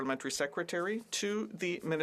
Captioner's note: speaking French